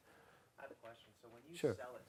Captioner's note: voiceover